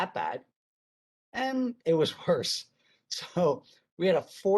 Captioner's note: chuckles